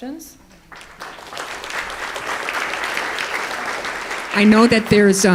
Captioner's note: crowd applause